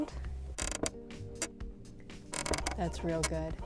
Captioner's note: creaking